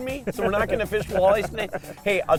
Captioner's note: laughs